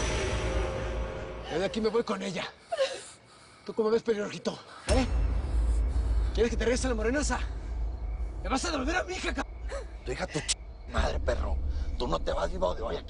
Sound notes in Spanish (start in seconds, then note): 2.2 Sollozo